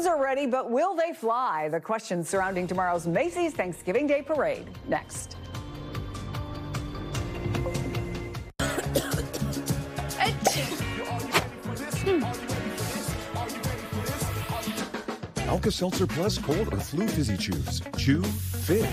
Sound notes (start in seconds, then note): 8.6 coughing; 10.2 sneeze